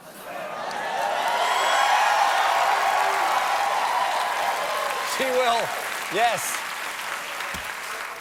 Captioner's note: cheers and applause